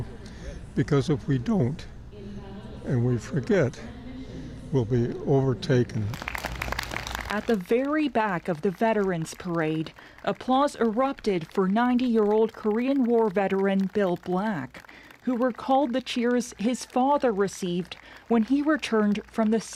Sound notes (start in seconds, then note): 8.0 applause